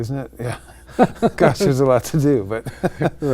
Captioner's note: laughing